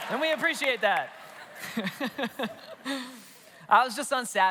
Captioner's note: congregation laughs; laughs